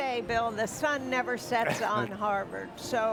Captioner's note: chuckles